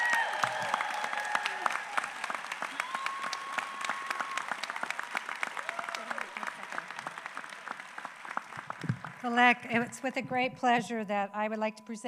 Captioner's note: applause